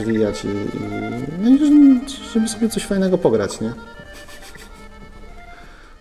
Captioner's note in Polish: śmiech